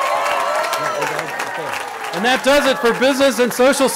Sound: cheering

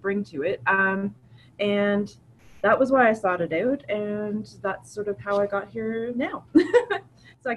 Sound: laughs

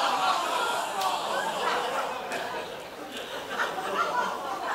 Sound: crowd laughs and groans

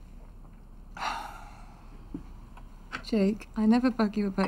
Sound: Jake sighs

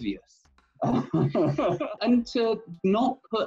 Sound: laughs

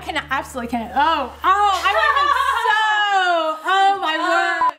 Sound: laughs

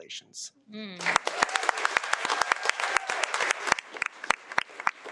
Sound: audience clapping

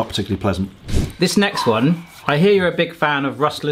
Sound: screen wipe whooshes

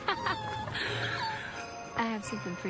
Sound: joyful laughter

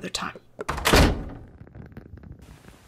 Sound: door slams

